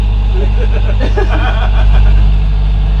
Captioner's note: laughter